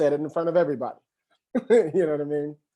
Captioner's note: chuckles